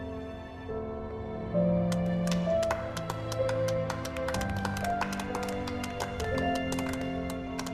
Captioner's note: applause